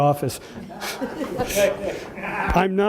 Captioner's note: audience laughs